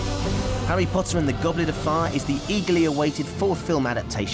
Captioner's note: none